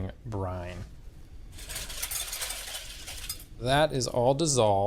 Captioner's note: whisk rattles